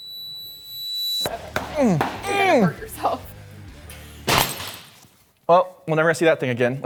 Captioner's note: grunting